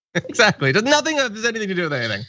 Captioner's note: laugh